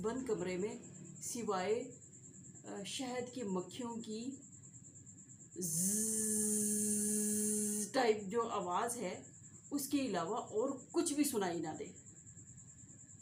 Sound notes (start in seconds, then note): 5.6 sound of honey bee